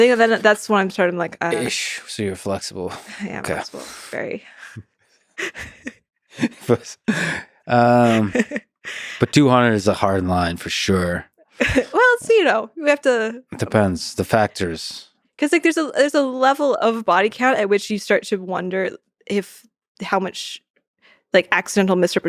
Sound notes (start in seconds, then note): 5.0 both laughing